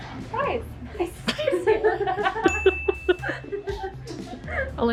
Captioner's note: all laugh